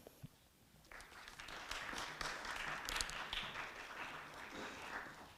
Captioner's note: audience clapping